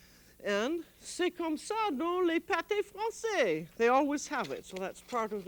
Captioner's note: speaking french